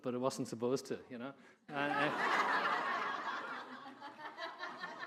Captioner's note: audience laughing